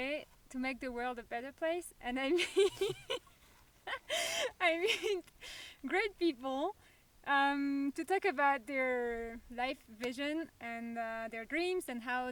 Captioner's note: laughs